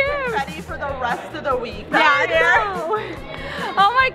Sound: laughs

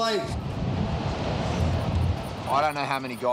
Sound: car rumbling past

